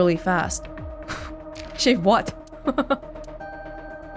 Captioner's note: chuckles